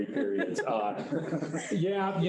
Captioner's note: group laughing